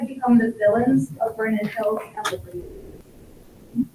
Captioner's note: speaks faintly